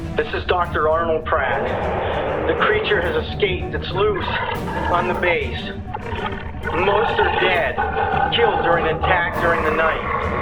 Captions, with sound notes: - This is Dr. Arnold Pratt, (creature roaring) the creature has escaped, (creature snarling) it's loose, on the base! Most are dead, killed during an attack during the night.